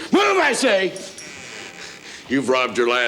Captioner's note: door creaks